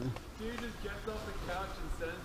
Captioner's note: group talking and laughing